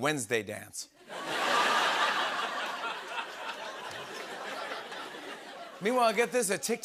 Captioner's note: laughter